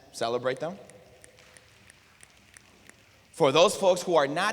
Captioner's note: applause